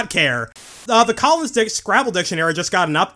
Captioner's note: static